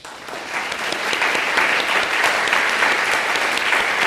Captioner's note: audience claps